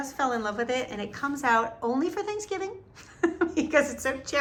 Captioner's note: laughs